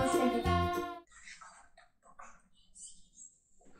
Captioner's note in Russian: неслышно шепчет секретик